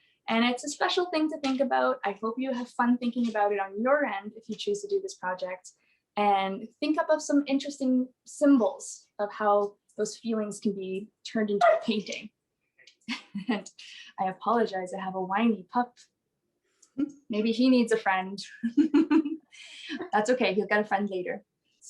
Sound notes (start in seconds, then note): 11.6 puppy barks; 13.1 laughs; 18.6 laughs